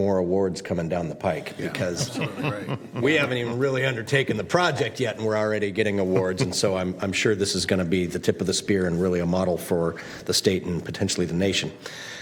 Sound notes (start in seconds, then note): 6.0 laughter